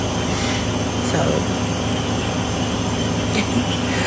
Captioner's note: laughs